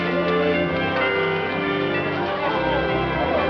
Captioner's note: bells toll